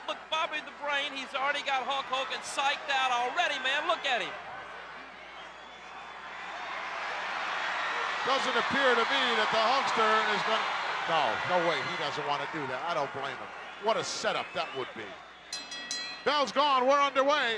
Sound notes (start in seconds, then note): 6.7 audience cheering; 15.5 bell ringing